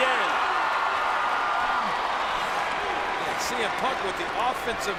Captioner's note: crowd cheers